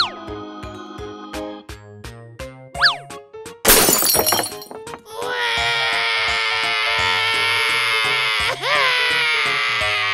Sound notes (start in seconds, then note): 3.6 crashes; 5.1 cries